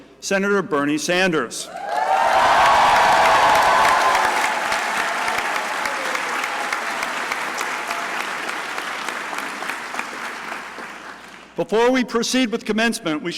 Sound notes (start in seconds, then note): 1.7 crowd cheering and applauding